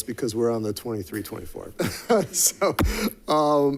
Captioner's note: chuckles